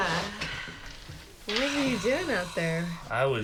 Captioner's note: exhales heavily